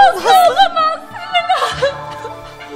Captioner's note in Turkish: ağlama sesleri̇